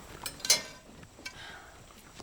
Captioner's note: sighs